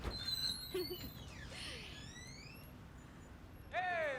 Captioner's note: Leila laughs